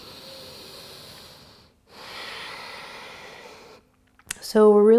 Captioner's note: deep exhale and inhale